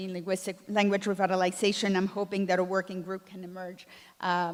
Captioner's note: none